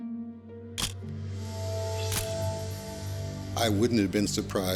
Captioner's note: camera shuttle click